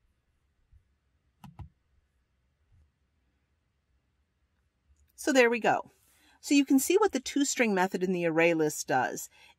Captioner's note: pause